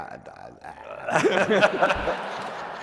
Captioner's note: laughter